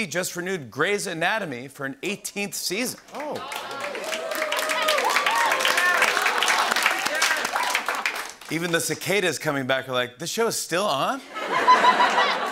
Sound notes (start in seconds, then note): 3.1 cheering and applause; 11.3 laughter and applause